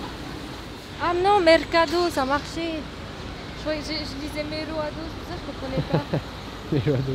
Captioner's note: laughs